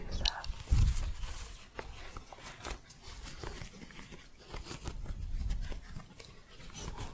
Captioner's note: scratching